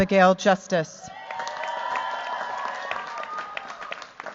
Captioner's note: cheers, applause